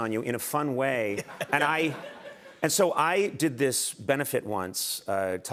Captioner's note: laughter